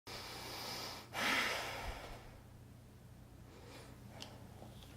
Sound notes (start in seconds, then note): 0.3 takes a breath